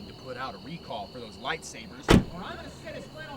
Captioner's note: door slams